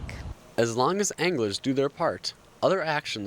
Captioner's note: voiceover